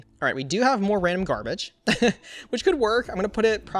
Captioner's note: laughs